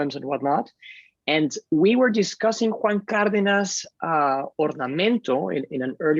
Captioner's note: speaking Spanish